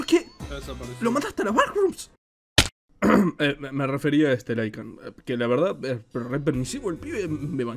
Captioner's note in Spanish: sonido de tos =